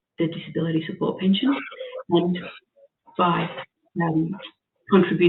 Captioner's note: audio distorts